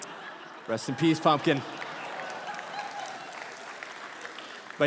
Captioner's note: congregation laughing and applauding